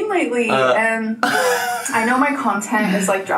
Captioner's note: laughing